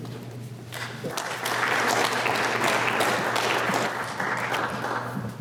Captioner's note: applause